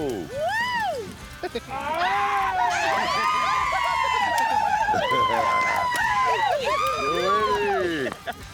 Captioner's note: cheering, laughter